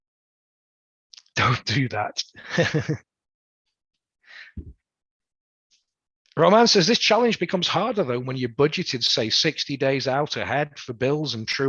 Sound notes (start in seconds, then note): 2.2 laughs